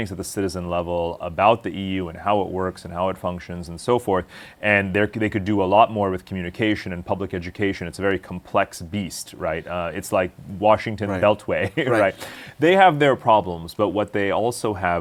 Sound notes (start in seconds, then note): 11.0 laughs